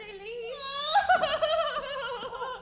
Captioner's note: Constance cries